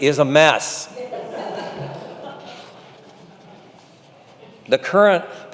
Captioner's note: congregation chuckling